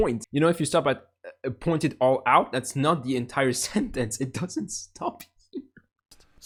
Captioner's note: chuckle